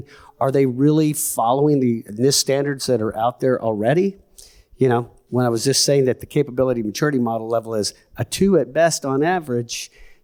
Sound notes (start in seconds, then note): none